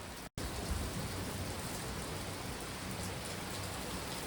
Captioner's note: intense rainfall